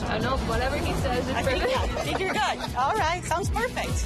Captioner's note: all laugh